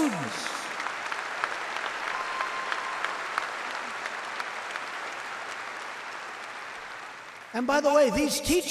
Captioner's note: applause